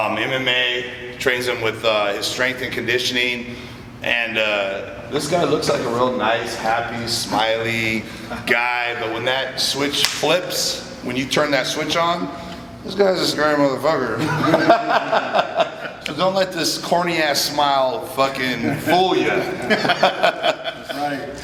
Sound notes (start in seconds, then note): 10.0 snap; 14.2 all 3 chuckle; 19.3 all 3 chuckle